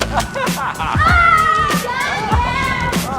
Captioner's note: screams